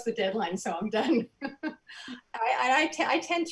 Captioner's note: soft giggles